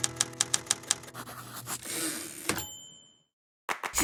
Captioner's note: typewriter clicking; typewriter dings